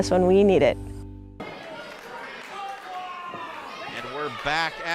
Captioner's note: crowd jeering